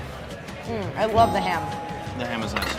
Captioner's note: bell dinging